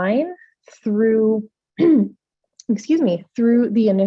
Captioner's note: coughs